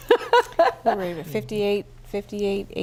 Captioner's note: laughter